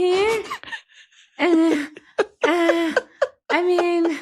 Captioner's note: laughing